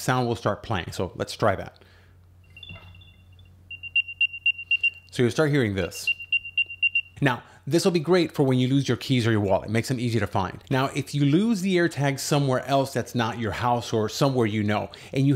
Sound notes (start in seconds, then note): 2.5 helpful chirping noises